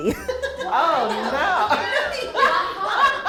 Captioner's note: all laugh